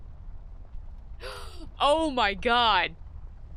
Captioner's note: gasp